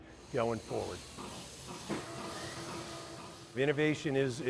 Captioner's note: machine chugs